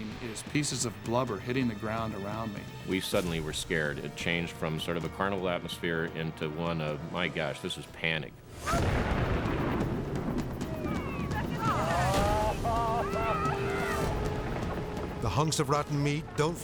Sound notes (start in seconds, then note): 8.5 whale explodes; 10.6 crowd cheers